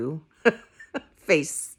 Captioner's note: laughing